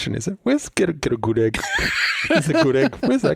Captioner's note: laughs